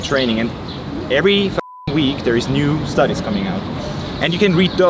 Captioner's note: beep